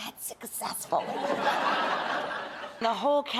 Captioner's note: audience laughs